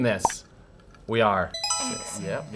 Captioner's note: pop